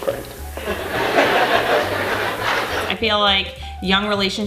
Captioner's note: laughter